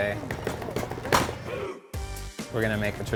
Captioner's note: taps on wood